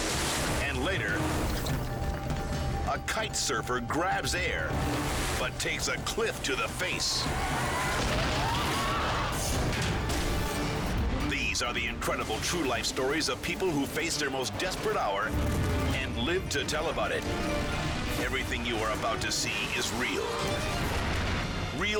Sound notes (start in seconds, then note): 7.2 crowd screaming; 7.2 surfer crashing